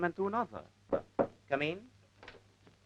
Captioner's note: door knock